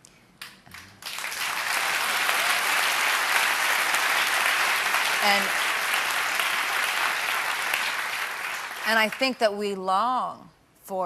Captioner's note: applause